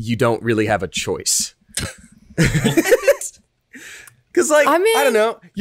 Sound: laughs

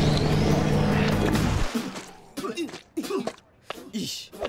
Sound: MechaBot spitting

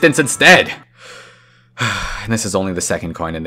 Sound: sigh

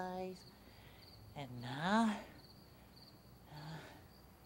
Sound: sighs

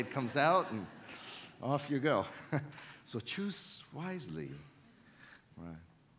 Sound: chuckles

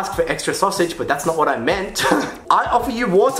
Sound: laughs

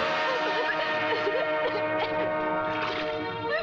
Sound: coughs

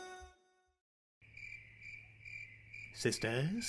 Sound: crickets chirp

